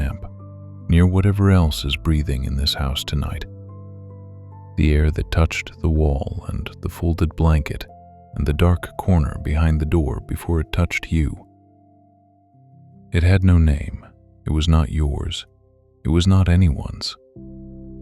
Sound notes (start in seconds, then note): 11.3 pause